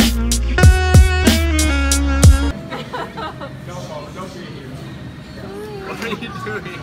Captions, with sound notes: (laughing) - What are you doing?